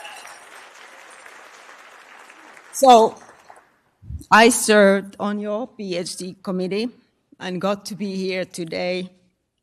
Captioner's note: applause